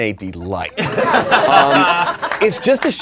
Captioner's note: laughing